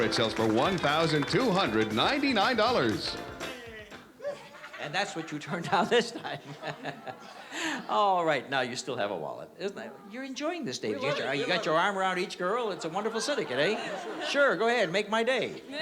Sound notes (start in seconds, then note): 4.1 laughs